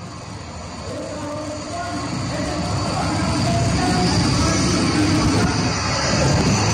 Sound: divers shouting in foreign language; air whooshing

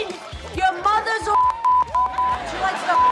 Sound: beeping noise

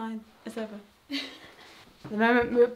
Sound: laughs

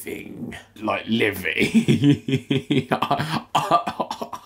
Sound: laughing

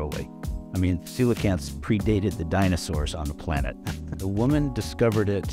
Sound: chuckles

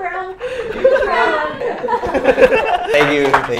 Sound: everyone continues laughing

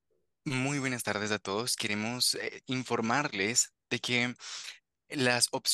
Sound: interpreter speaking Spanish

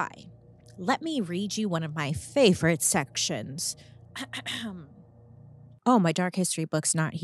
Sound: clears throat

